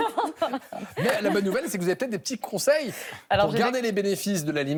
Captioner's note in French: rires